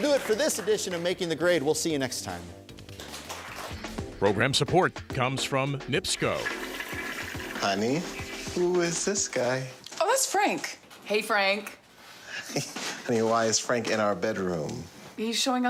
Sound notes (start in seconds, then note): 3.0 applause; 7.4 toilet flushing